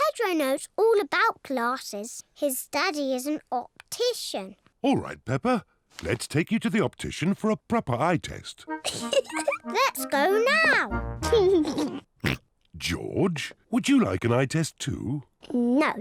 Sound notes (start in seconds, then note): 8.8 laughs; 11.2 laughs, snorts